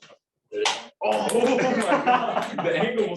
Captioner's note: laughter